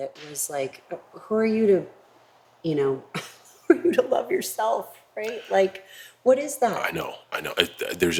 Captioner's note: laugh